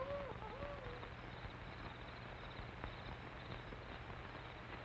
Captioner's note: insects chirping